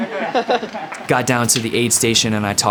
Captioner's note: laughing